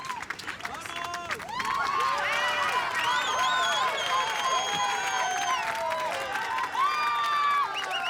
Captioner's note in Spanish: Silbidos